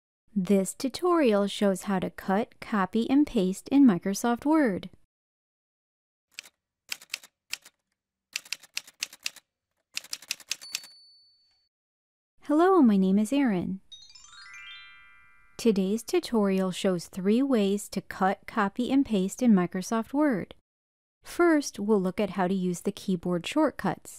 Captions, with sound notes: This tutorial shows how to cut, copy, and paste in Microsoft Word. [Typewriter sounds] Hello, my name is Erin. [Chime sound] Today’s tutorial shows three ways to cut, copy, and paste in Microsoft Word. First, we’ll look at how to use the keyboard shortcuts.